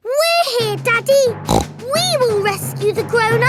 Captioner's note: snorts